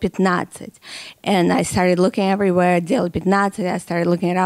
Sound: speaking in Russian

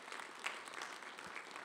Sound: audience applauds

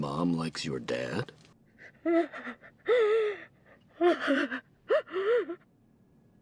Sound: crying

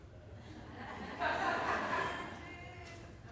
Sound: laughing

